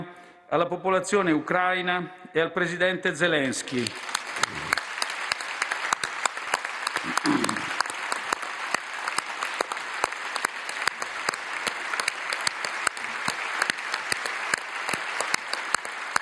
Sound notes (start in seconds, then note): 3.7 roar of applause